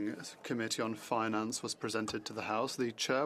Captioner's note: speaking French